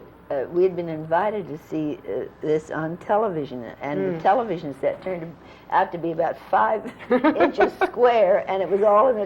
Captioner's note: laughs